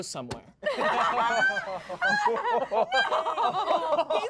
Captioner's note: everyone laughs